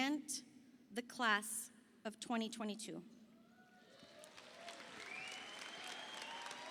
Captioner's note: audience applauding